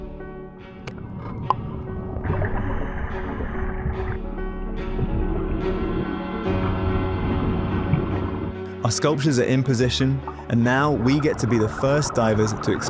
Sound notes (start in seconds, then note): 0.1 gentle music; 2.5 water bubbling; 5.4 gentle music